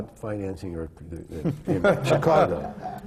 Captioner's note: laughter